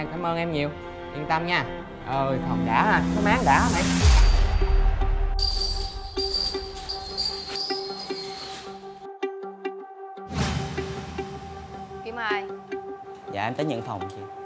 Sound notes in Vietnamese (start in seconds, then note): 5.4 door squeak